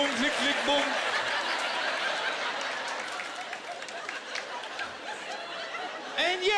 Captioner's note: laughter and applause